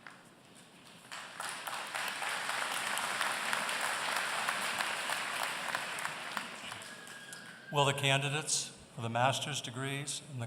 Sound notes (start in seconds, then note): 0.8 applause